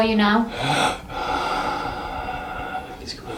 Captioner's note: wheezing